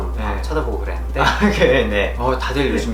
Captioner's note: old-school talking